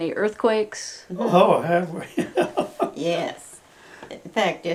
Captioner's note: laughs